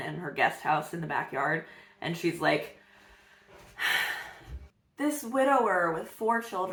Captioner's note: heavy sigh